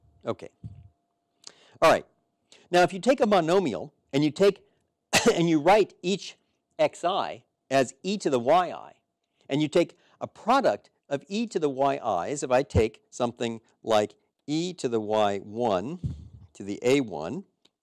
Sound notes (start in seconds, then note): 5.1 cough